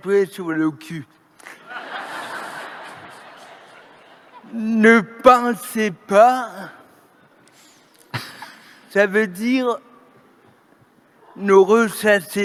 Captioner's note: laughter